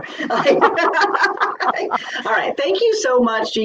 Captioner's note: laughs